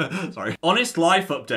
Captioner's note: laughs